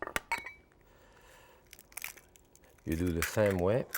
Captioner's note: eggs crunching